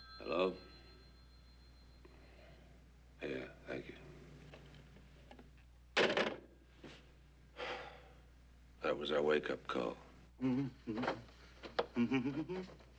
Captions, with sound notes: Hello? Yeah. Thank you. That was our wake-up call. [humming]